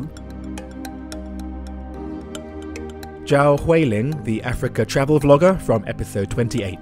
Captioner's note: voiceover